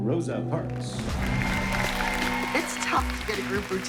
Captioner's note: applause